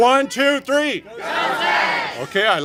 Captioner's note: congregation shouting